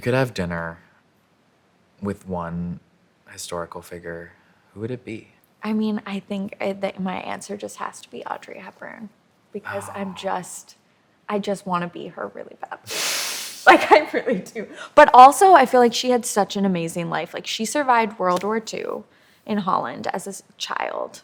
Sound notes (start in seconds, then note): 13.2 laughs